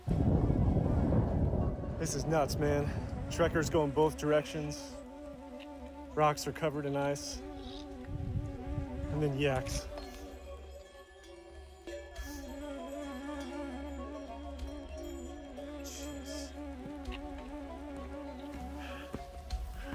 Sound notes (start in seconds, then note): 0.3 aircraft whirring; 11.8 yak bells tolling; 17.2 soft music